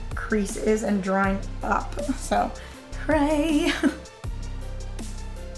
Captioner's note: laughs